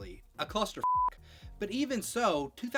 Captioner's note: beep